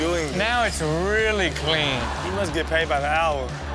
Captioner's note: audience laughs